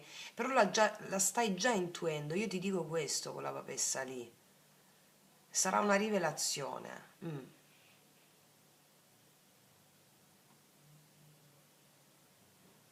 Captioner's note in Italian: schiarire la voce